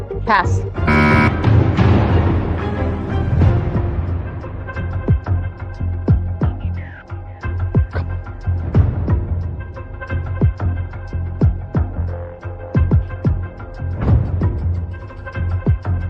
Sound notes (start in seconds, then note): 7.8 whispers; 12.2 tense music